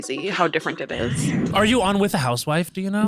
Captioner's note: screen whooshing